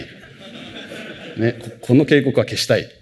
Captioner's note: laughter